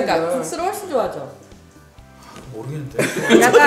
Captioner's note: hesitant; sigh